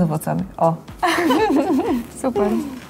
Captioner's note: laugh